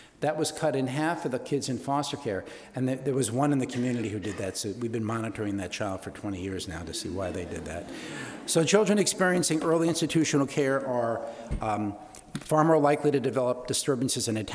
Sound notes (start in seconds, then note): 6.8 audience laughing